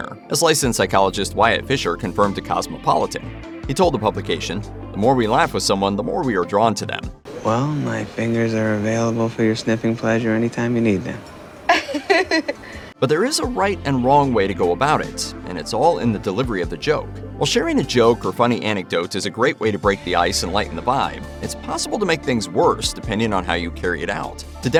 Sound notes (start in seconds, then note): 11.6 laugh